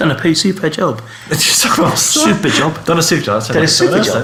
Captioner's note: laughing